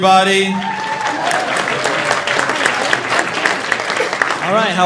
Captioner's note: audience cheering; audience applauding